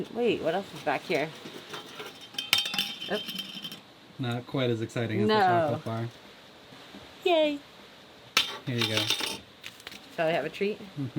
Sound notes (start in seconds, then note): 1.4 clattering